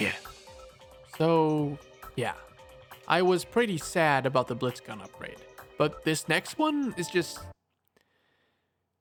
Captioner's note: sigh